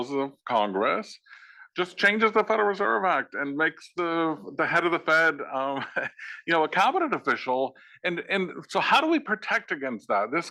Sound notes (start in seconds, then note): 5.1 laugh